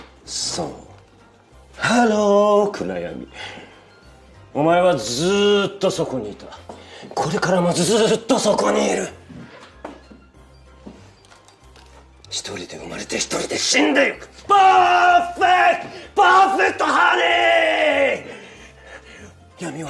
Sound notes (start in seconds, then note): 6.0 takes footsteps